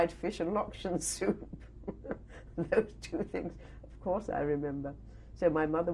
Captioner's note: laughs